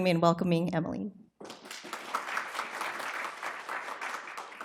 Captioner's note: applause